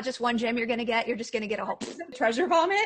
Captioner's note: raspberry noise